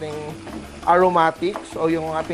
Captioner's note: sizzle